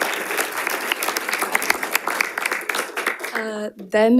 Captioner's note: audience applauding